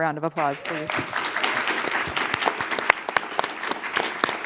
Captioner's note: applause